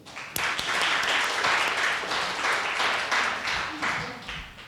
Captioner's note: audience applauding